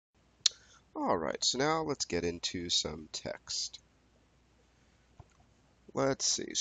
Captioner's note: voiceover